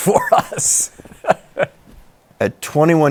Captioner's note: chuckles